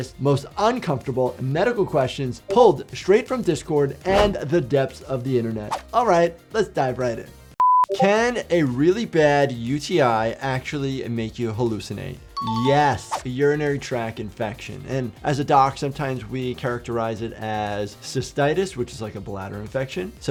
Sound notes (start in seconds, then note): 5.7 video whooshes; 7.6 beeps